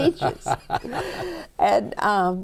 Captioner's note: laughter